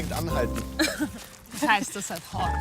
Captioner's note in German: lacht